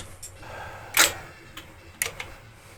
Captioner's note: clicking